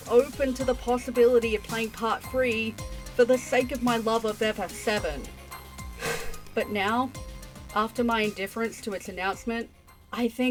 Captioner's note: sigh